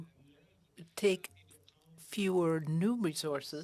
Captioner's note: speaking FRENCH